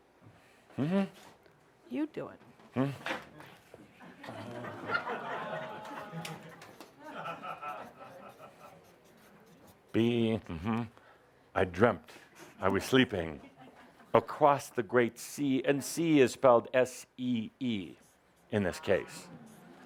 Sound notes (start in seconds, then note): 3.9 laughter as Adamus takes over writing